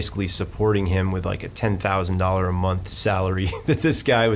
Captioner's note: laughing